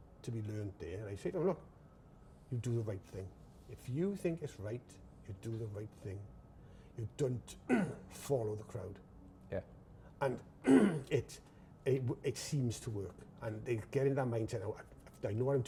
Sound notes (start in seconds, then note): 7.7 clears throat